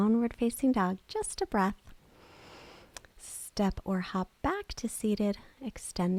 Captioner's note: inhales